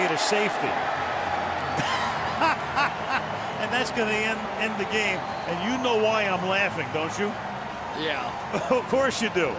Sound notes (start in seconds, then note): 1.8 laughs